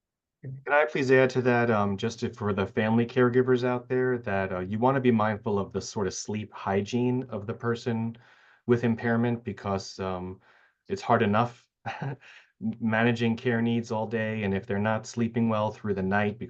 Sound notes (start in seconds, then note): 11.8 chuckles